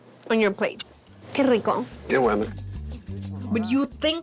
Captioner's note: both speaking Spanish